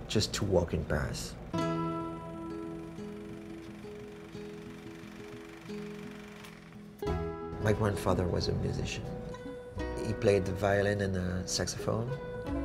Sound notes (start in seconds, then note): 1.9 soothing music; 4.3 projector whirs